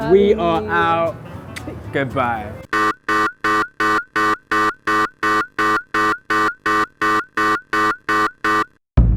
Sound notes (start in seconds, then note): 2.7 alarm blares